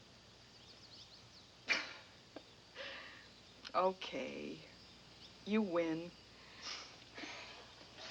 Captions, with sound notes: - (laughs) Okay. You win.